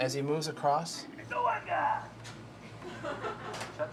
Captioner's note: woman Laughs